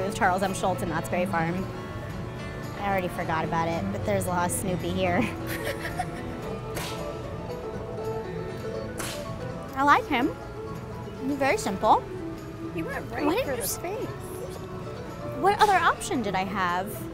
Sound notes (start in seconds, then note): 5.2 laughing